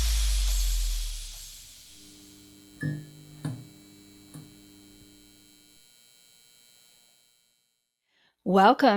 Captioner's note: neon light hum and light turning on sound